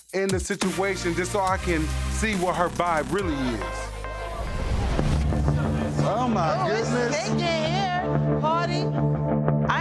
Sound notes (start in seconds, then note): 3.3 people chattering; 4.2 tense droning music